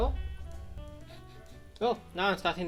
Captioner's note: sniffing